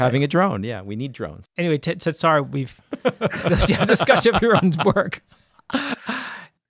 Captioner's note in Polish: oboje śmieją się